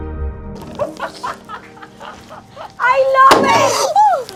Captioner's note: laughing